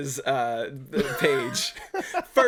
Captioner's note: laughing